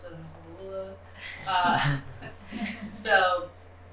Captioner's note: laughter